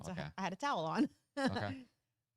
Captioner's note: chuckles